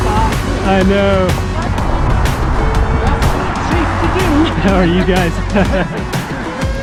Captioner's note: laughing